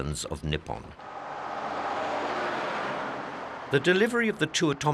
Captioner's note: plane roaring